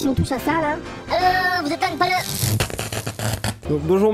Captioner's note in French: Bruit électrique